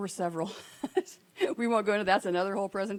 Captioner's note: laughing